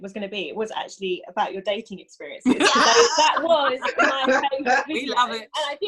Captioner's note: laugh